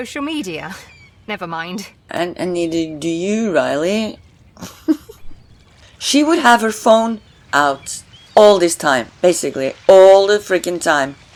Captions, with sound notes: And neither do you, Riley! (laughs) She would have her phone out all this time. Basically all the freaking time!